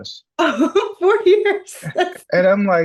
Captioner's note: laughs